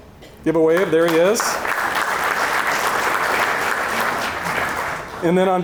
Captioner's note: audience applauding